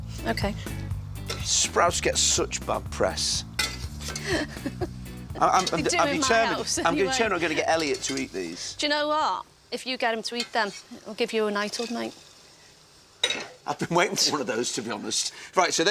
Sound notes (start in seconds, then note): 4.0 laughs